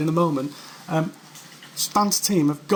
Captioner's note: voiceover